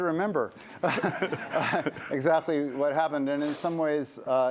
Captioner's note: laughter